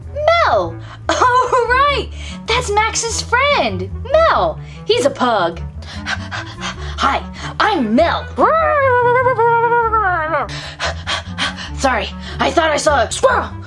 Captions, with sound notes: Mel. Oh right, that's Max's friend, Mel. He's a pug. (panting) Hi, I'm Mel. (barking and panting) Sorry, I thought I saw a squirrel.